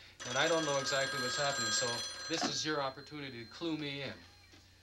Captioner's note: phone rings